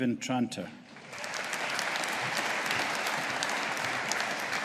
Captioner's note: audience applauding